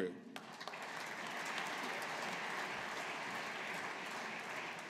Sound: audience applauding

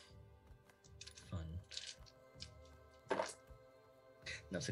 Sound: dice rolling

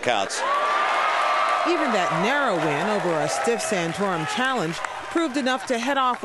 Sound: cheering and applause

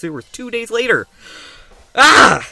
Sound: inhale

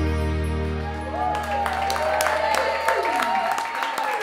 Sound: all cheering

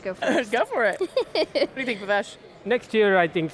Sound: laughs

